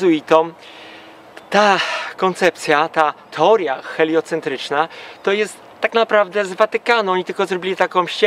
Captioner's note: exhale